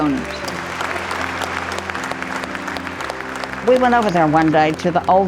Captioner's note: audience clapping